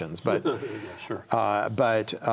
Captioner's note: chuckles